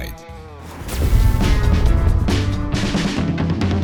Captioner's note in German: Explosion des BK42-Logos